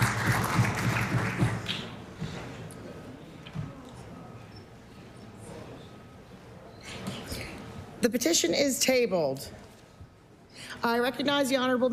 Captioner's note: applause